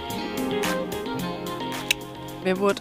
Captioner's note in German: Klicken